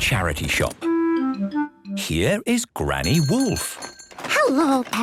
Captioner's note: bell jingling